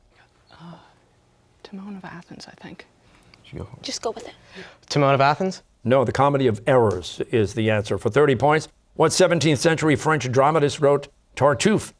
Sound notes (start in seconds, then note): 0.3 whispering